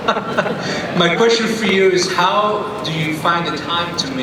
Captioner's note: voiceover